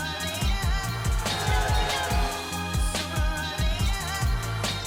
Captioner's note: people cheer